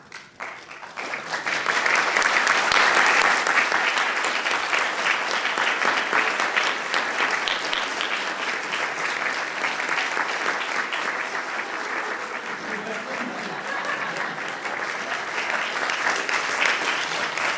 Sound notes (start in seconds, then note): 0.1 applause; 13.1 laughter